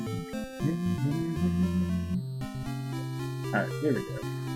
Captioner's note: humming along